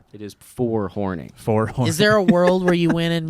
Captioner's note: laughs